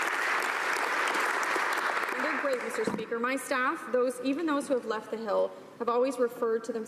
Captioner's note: applause